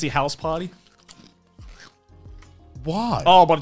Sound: crunching

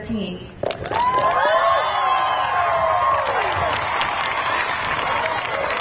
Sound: audience cheering and clapping

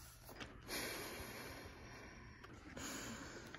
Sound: A sigh

